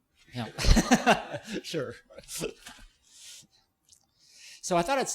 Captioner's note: laughing